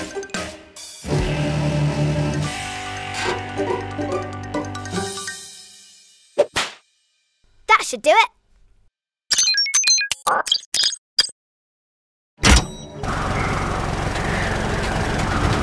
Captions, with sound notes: That should do it. (electronic beeping)